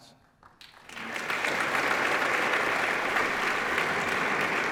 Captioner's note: applause